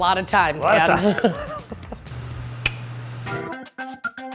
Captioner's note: laughs